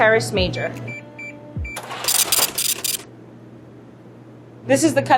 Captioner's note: scale beeps and brrhs